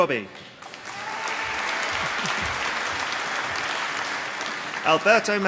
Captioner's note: applause